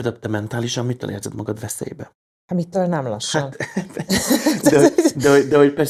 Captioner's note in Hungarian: nevetés